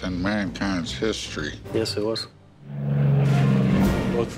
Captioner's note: airplane roars past